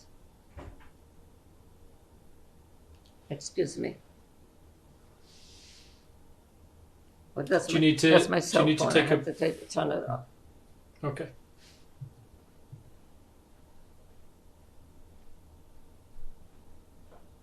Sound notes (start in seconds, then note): 0.1 pauses for 3 seconds; 11.6 pauses for 48 seconds